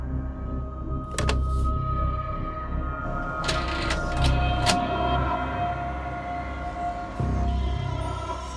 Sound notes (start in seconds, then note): 3.4 clicking